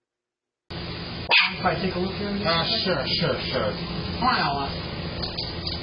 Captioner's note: Ella barks and growls